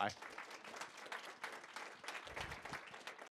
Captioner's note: applause